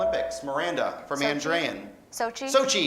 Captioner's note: beeping